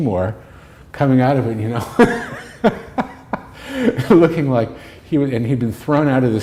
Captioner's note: laughter